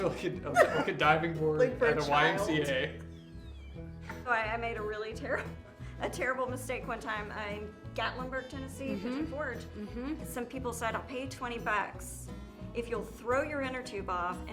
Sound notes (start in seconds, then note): 0.5 laughs; 5.7 laughs